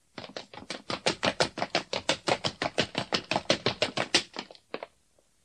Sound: SFX: frantic footsteps

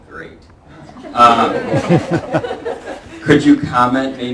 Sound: laughter

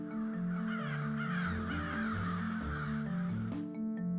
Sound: crows cawing

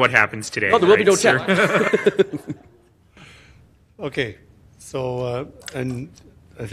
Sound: laughter; laughter

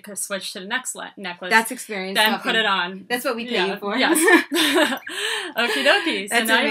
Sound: laughing

